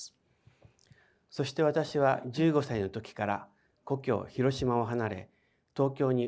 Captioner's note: speaking in foreign language